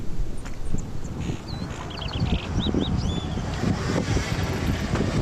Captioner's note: car engine roaring